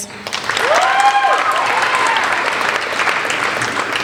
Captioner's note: applauding